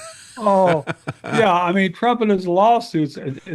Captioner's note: laughing